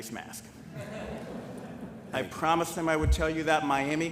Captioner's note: laughter